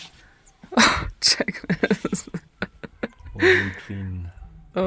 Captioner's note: laughs